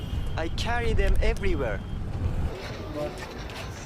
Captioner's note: woman, speaking native language; speaking native language